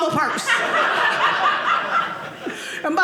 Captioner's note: audience laughing